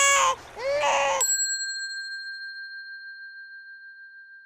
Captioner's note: bell ringing